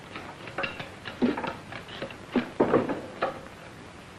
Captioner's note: tools clattering